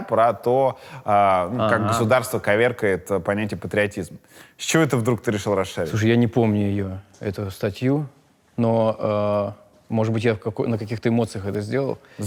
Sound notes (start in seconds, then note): none